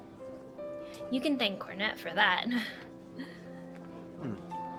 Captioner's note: chuckles